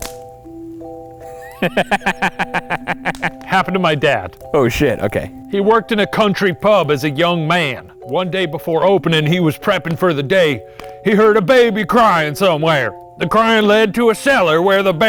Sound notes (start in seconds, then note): 1.2 chuckles